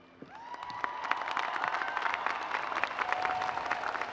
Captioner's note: audience applauds